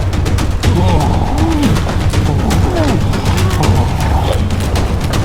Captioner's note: both grunting